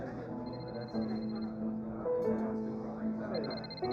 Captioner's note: phone ringing